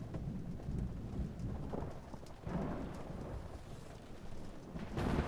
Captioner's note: thunder rumbling